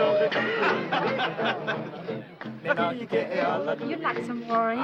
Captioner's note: Culley laughing